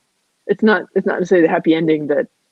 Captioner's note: voice muffled